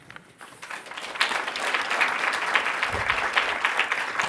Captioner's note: applause